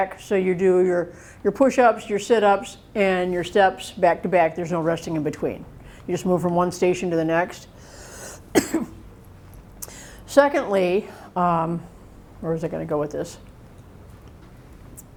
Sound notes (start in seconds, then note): 8.4 coughs